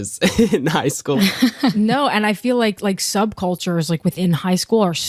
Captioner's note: chuckles